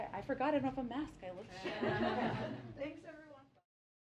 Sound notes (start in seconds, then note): 1.6 laughter